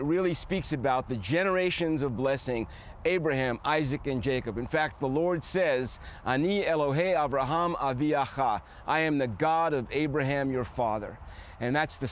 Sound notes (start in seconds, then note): 5.6 speaking hebrew